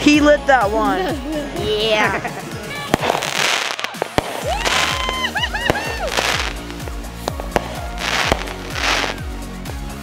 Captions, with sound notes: - He lit that one. - Yeah. (fireworks continue bursting) (everyone continues cheering)